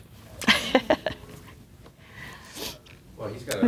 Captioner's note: laughing